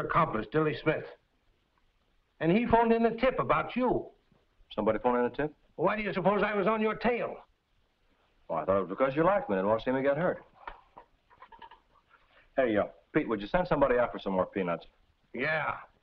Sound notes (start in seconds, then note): none